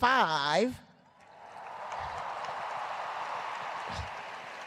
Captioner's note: cheers and applause